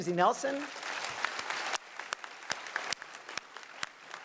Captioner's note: applause